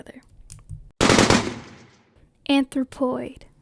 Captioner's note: gun firing sfx